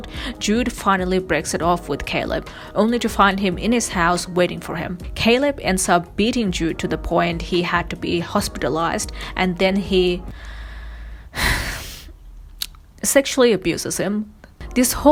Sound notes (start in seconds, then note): 10.3 sighs